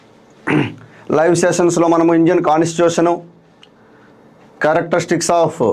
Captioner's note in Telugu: గొంతు సవరించుకోవడం